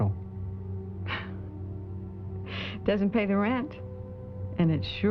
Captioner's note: chuckles